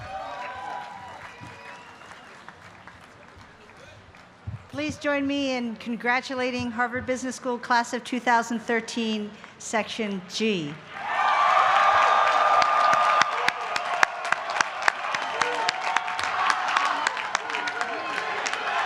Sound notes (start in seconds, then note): 10.9 applause